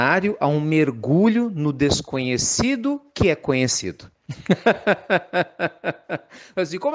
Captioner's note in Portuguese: risos